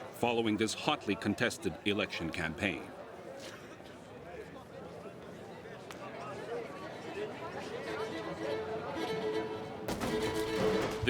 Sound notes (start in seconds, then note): 3.5 people chatter indistinctly; 7.9 dramatic string music